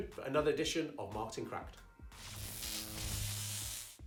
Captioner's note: electric Buzz